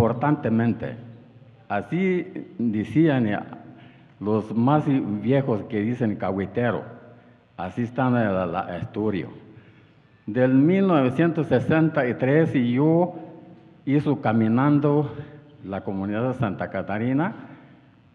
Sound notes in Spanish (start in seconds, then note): 5.9 habla en wixárika